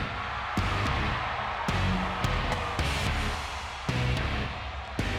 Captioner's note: crowd cheers